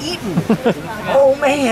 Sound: laughs

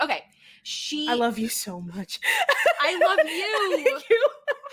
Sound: laughs

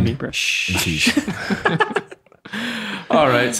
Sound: innocent chuckles

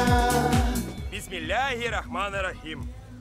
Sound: speaking Tatar

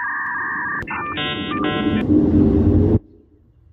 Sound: internet connection tones

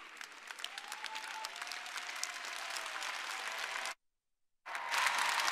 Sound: audience applauding

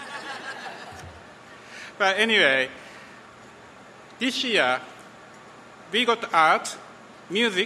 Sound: laughter

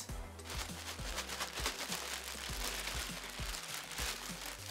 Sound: bag crumpling

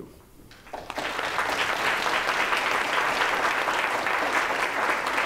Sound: audience applauds

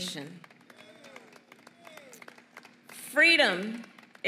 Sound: applause

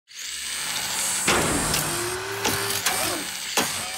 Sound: machine whirring

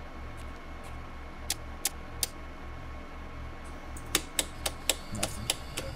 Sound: switch clicking

